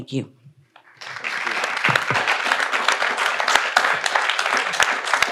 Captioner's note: audience applauds